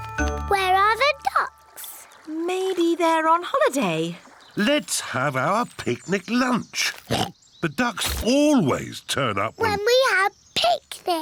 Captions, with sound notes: Where are the ducks? Maybe they're on holiday. Let's have our picnic lunch. (OINKS) -The ducks always turn up... -When we have picnics!